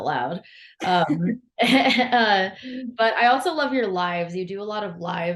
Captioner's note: laughs